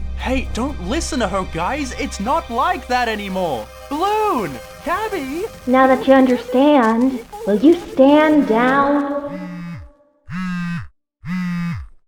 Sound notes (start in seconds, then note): 4.8 begins cutting out; 9.6 MePhone vibrates